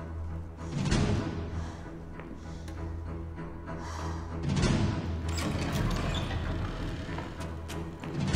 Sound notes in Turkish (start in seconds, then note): 0.4 Nefes alış, veriş; 5.3 Kapı sesi